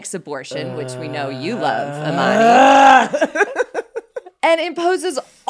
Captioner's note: laughs